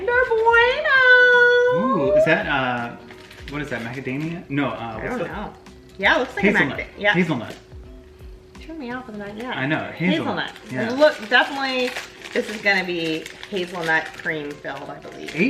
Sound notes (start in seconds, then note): none